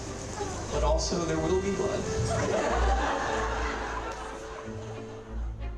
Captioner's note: laughter